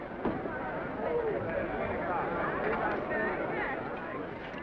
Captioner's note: all chattering